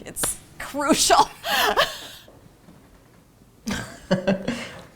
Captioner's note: laughing